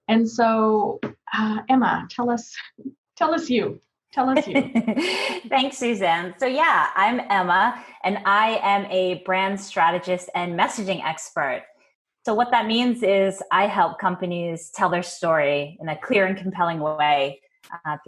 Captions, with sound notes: And so, Emma, tell us-- Tell us you. (laughs) - Thanks Suzanne. So yeah, I'm Emma and I am a brand strategist and messaging expert. So what that means is, I help companies tell their story in a clear and compelling way